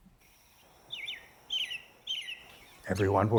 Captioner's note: american robin singing